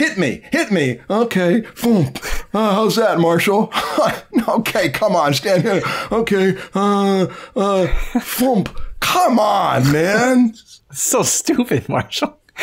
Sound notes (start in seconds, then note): 7.6 chuckles; 12.3 laughter